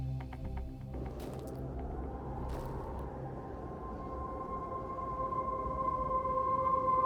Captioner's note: ominous music; wind blowing